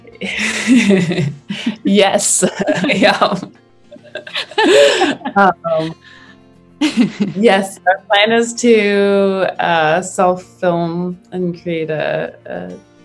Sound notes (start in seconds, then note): 0.1 laughs; 3.9 both laugh